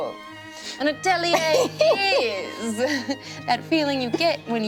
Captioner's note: laughs